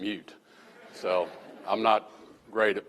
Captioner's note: laughter